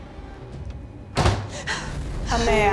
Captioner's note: tense dramatic music; door thuds